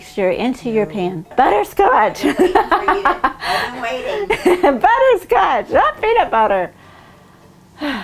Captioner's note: laughing